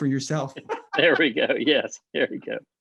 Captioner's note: both laughing